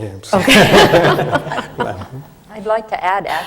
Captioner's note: laughter from the panel